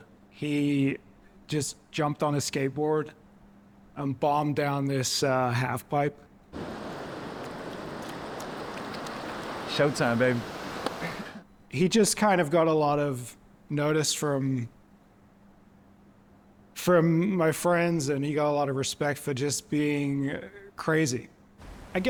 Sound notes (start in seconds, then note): 11.0 Miguel giggles